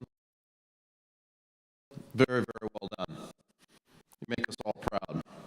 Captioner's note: audio cuts out